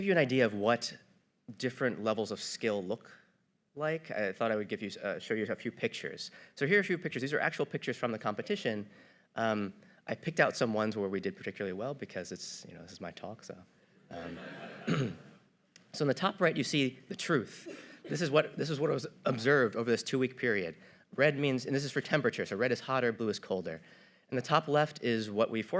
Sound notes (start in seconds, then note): 14.1 audience laughter